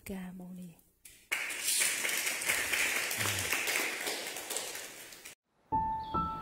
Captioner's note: clap